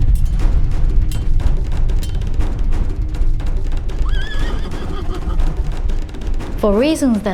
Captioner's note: tense expectant music; horse whinnying